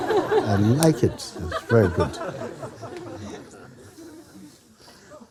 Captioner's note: laughter